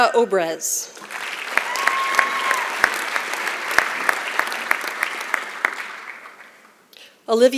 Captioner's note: applause